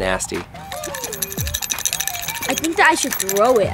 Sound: bells jingling

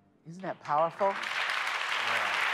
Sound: applause

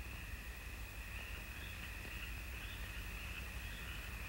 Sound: birds chirping

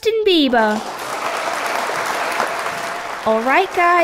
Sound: clapping

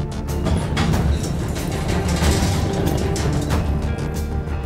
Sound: elevator door opens

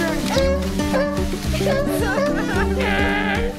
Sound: seals barking

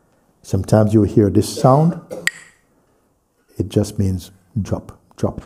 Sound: clacks the sticks

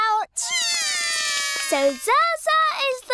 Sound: both cry

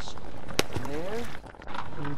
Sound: splash

